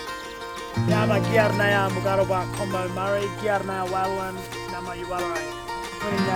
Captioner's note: speaking in first nations language